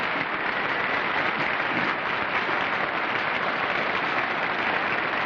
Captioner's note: applause